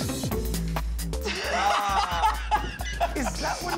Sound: laughter

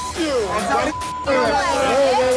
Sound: bar crowd chattering

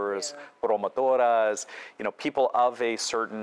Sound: speaking foreign language

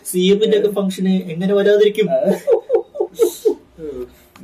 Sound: laugh

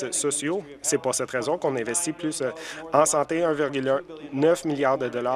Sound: some Applause

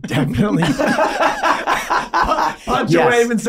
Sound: all laughing

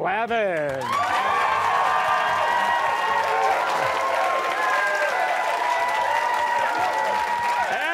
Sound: cheers and applause

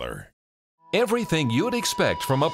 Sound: voiceover

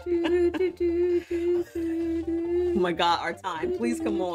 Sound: makes sad music with her mouth

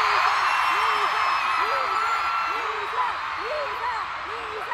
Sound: crowd cheers

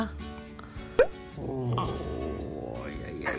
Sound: yawn~

